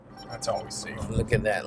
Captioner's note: notification chiming